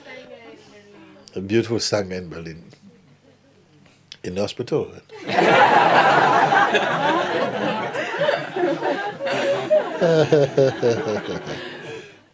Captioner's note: laughter